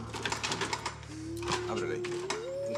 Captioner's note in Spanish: sonido al abrir la puerta